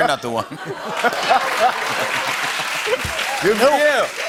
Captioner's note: laughter and applause